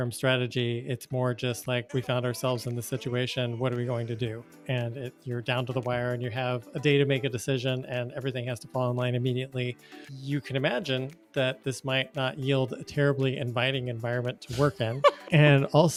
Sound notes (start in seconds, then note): 14.5 chuckles